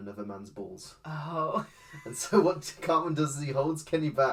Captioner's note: laughs